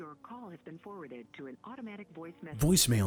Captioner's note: voicemail